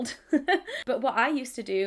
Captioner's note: laughs